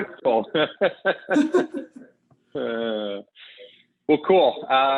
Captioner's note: both laughing